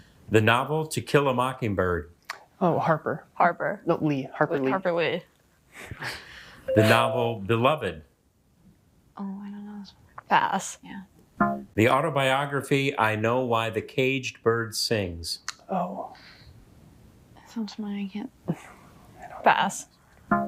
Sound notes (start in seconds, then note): 6.6 musical notes chimes; 11.4 womp chimes